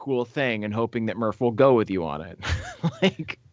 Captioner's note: laughs